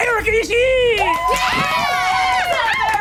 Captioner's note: group cheering